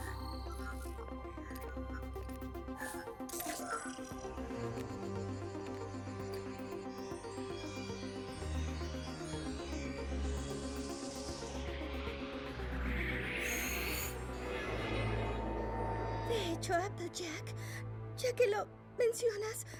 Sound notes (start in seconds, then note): 8.7 chimes; 11.6 whoosh